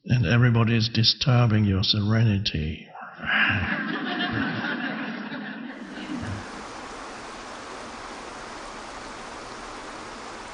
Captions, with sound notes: And everybody is disturbing your serenity. (audience laughing) (burbling waterfalls)